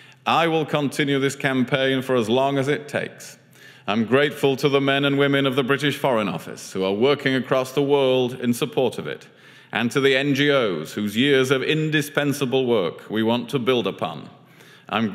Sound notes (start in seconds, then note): none